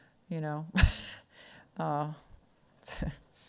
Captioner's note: laughs